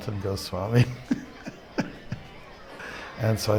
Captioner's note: laughs